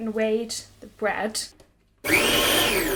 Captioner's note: whirring sounds of the food processor